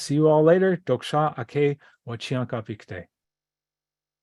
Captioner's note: native language spoken